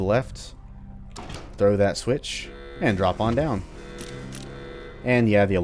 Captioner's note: riff plays, Klaxon starts back up